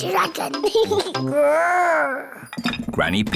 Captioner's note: giggles, growls